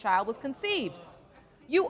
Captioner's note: audience murmuring